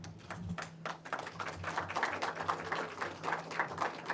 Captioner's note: audience applauding